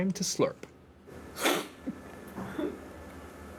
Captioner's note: slurps